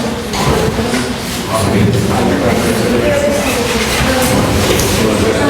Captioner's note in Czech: students are twittering